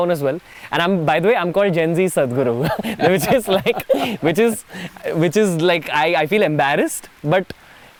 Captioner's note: both laugh